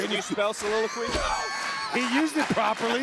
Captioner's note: Booker laughs